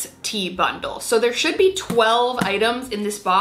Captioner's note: box thumping